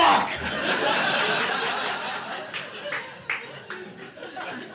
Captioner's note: audience laughing